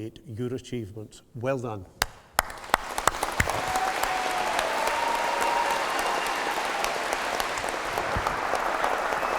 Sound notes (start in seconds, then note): 2.0 applause